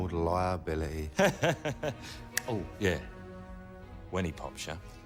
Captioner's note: laughs